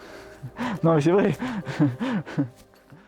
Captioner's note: laughing